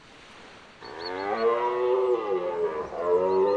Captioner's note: deer wailing